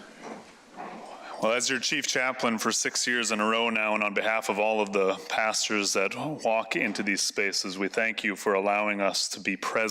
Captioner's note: banging Gavel